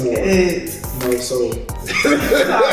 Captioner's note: fingers clicking; speaks faintly